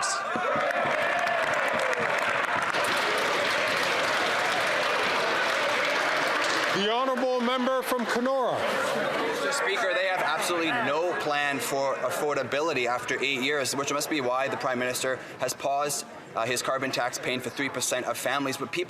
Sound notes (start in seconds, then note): 8.3 applause